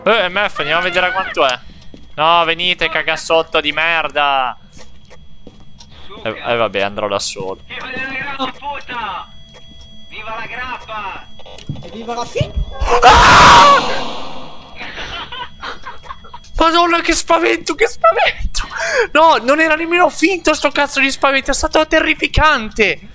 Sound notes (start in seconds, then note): 12.8 very manly scream